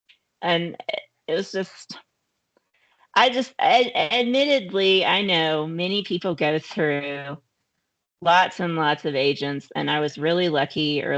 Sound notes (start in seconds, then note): none